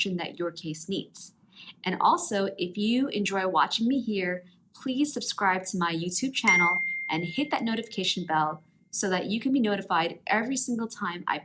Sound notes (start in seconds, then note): 6.4 belling ringing